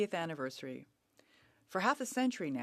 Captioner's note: speaking French